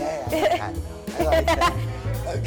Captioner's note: laughing